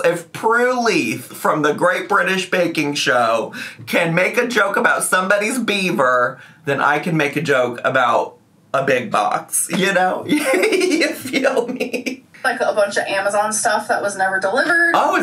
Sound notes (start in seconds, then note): 10.3 laughs